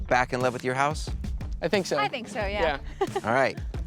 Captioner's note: chuckles